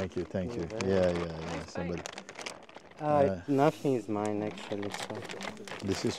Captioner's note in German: Stimmen aus der Gruppe